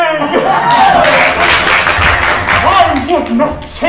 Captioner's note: crowd applauding